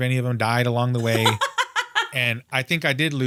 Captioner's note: laughs